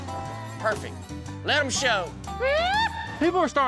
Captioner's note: yips